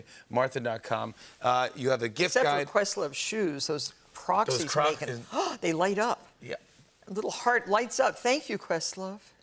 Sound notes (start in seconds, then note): 5.2 gasps